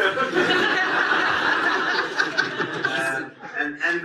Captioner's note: audience laughs